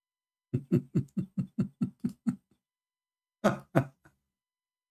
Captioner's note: Ketawa